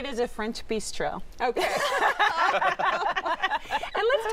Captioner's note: laughter